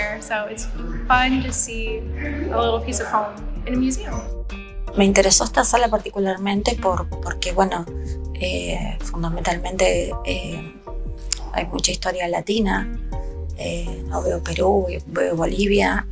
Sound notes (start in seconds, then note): 5.2 museum visitor speaking in Spanish